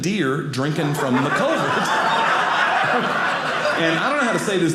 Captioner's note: audience laughing